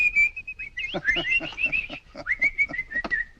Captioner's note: whistling